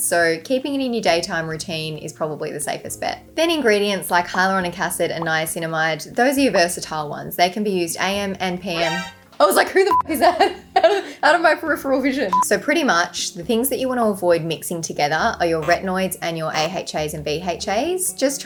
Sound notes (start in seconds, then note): 9.9 beep